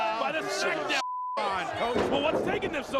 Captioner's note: beeping